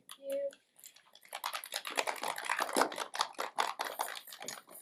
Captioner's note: applause